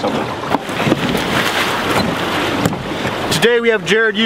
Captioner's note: water splashing